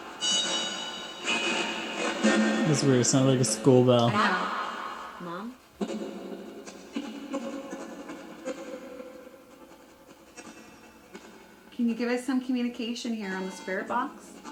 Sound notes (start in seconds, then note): 0.1 bell noise from the spirit box; 4.5 ghostly Voice